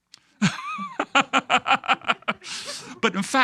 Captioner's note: laughing